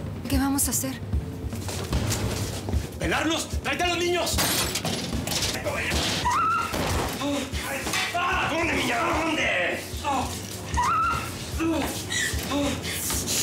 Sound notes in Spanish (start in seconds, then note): 6.2 Gritos; 6.6 Disparos; 10.8 Gritos; 11.4 Quejidos